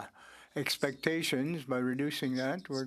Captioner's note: speaking French